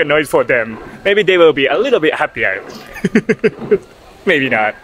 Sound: laughs

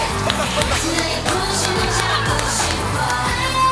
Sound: bombing

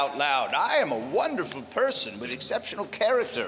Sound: british accent

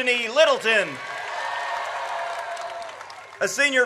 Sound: audience cheers

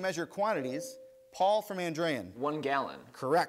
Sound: ding

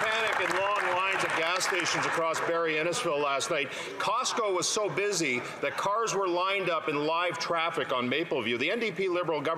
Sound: some Applause

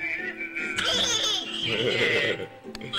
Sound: baby laughs; man laughs

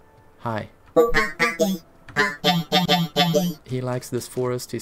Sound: robot noises; robot noises

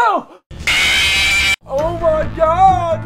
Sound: scream

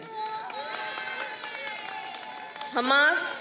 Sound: applause

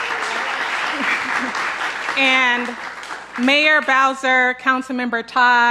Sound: applause

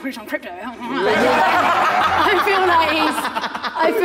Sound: Sidemen laughing

